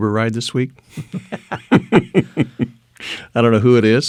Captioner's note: laughing